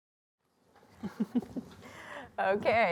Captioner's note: giggling